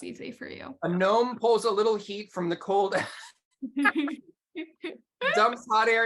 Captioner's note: laughs